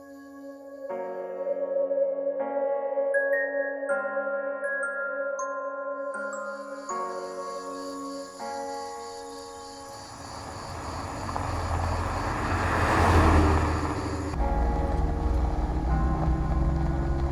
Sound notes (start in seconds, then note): 1.2 ghostly noises and motif; 6.1 crickets and night bugs; 11.5 truck drives; 14.5 truck driving noises